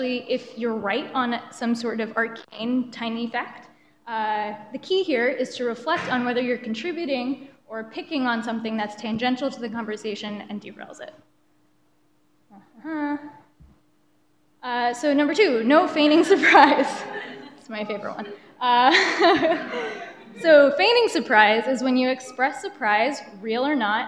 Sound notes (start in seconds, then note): 17.1 laughter; 18.8 chuckles